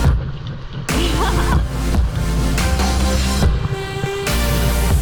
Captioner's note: laughs